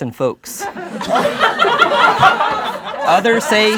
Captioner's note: laughing